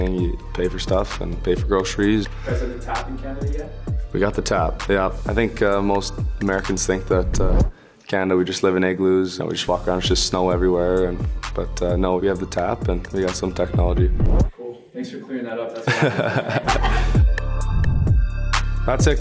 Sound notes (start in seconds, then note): 15.8 Connor laughing; 17.4 light music